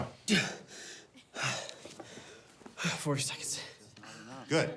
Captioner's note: gasps